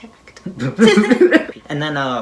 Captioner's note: laughing